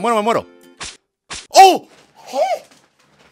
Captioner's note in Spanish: grito de frustración